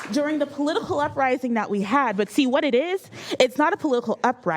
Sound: applause

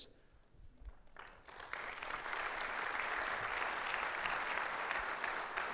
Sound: audience applauding

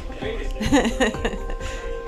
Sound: laughing

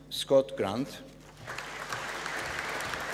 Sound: applause

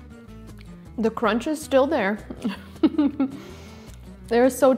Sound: giggles

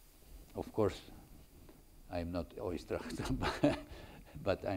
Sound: chuckles

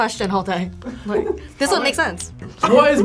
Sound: React laughs

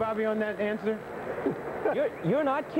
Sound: laughing

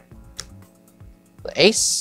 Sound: card slaps

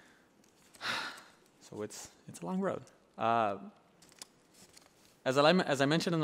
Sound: sighs

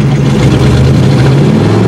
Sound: engine revs

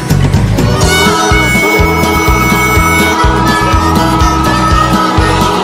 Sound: steam engines tooting

